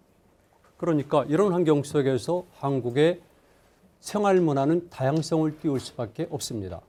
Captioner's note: speaking in Korean